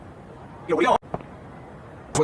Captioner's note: Yuyanese